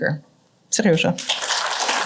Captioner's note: russian; applause